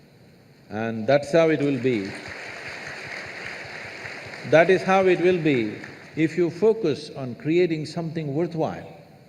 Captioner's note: applause